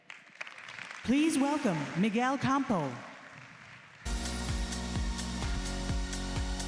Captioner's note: applause